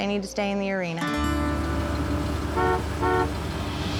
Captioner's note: honk honk